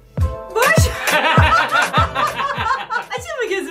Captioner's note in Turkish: Gülüşmeler